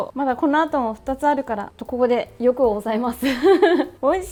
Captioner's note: laughter